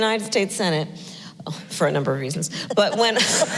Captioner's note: laughs